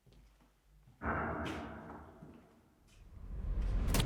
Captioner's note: ominous boom; screen whooshes